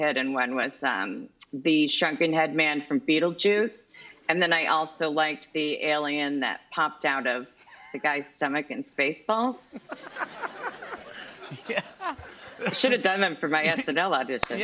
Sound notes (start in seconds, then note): 9.6 laughter